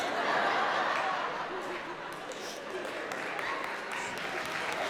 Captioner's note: audience laughing